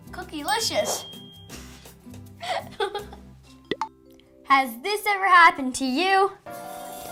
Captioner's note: laugh